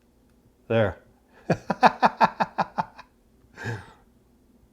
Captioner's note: laughs